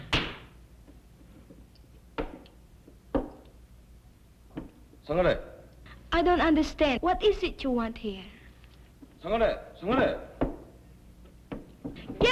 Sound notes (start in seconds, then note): 4.5 speaking japanese; 9.1 speaking japanese